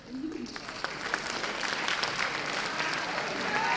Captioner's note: applause